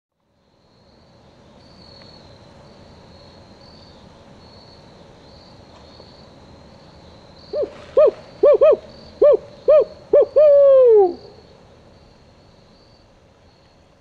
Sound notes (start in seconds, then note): 0.7 crickets chirping; 7.5 owl hooting